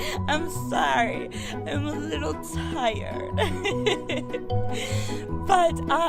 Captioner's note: sweet giggles